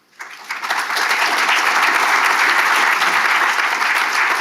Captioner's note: audience applauding